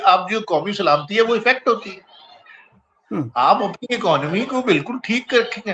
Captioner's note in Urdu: گلا صاف کرتا ہے